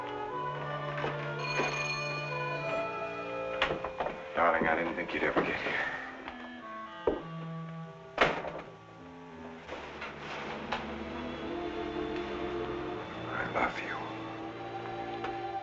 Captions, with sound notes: [Ringing Continues] Darling, I didn't think you'd ever get here. I love you.